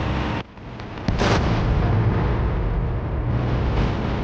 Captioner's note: bomb booming; tank roaring